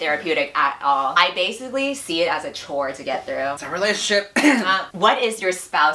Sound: coughs

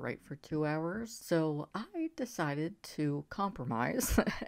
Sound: laughs

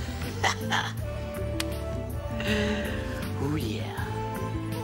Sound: Ram chuckles

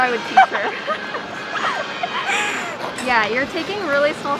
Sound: laughing

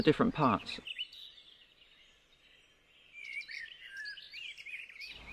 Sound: birds chirping

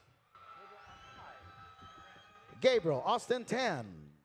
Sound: audience cheering

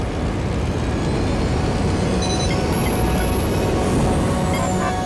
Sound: plane taking off

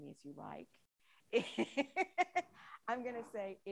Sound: laughs

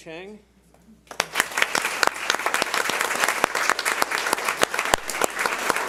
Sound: audience applauds

